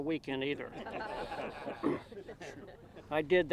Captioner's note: audience laughs